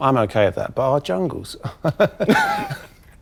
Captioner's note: laughs